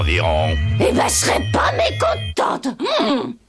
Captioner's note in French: L'onde sonore se propage encore